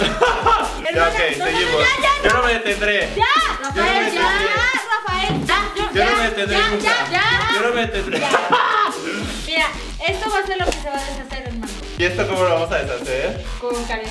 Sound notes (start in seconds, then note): 7.2 laughs